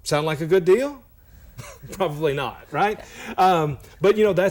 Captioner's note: chuckle